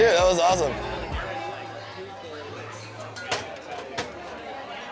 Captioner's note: people murmuring